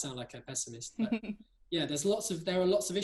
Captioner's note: laugh